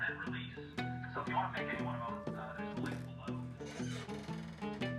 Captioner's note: speaks faintly; gentle upbeat music